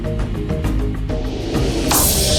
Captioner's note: item falling